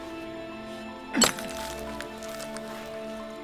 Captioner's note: crunch